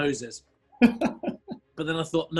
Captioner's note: chuckling